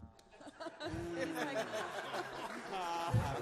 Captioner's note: all laugh